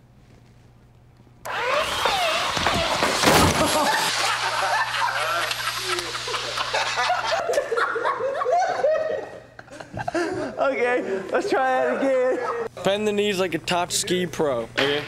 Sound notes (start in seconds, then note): 1.4 belt sanders whirring; 3.5 laughing